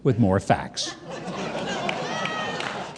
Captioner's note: audience laughing